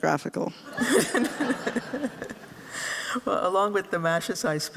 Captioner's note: laughter